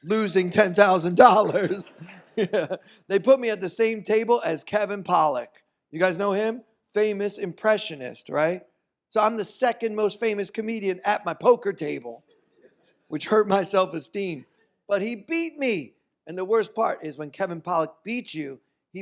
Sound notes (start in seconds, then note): 1.4 audience laughs; 1.4 laughing